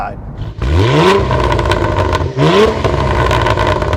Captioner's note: engine revving